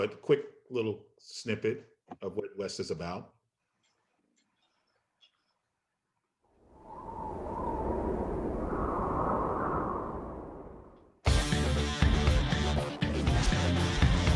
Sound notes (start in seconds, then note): 6.5 wind blowing; 11.3 bright music